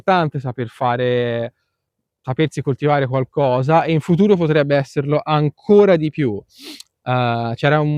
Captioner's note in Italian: sbuffare